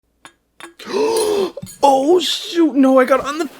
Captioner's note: glass clinks; gasps